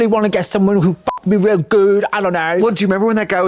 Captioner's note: beep